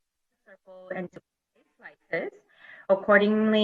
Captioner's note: audio cuts out